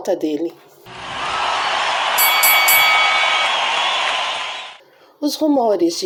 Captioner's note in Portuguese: Som de ringue